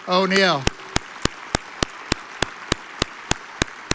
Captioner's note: audience applauds